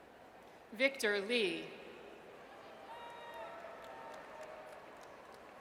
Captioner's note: audience cheers